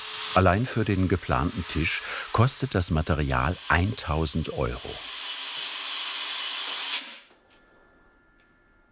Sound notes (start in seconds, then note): 4.7 machine whirring